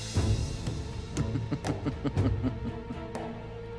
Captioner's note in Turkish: Gülme sesi